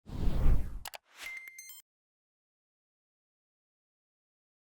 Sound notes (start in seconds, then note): 0.1 electronic swish